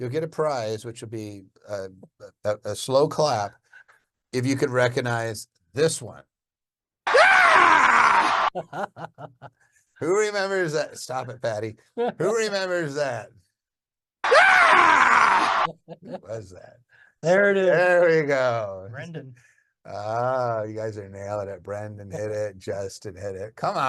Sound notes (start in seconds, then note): 7.5 virtual attendee grunting; 14.8 virtual attendee grunting; 15.6 laughing